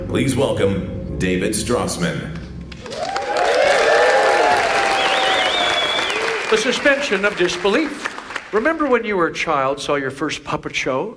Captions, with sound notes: Please welcome David Strassman. (audience applauds) - The suspension of disbelief. Remember when you were a child, saw your first puppet show